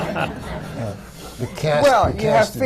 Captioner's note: laughter